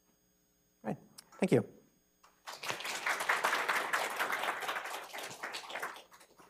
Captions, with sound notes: All right, thank you. (attendees applauding)